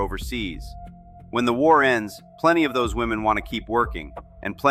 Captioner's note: thoughtful